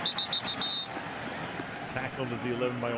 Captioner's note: whistle blows